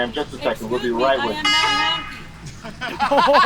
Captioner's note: honk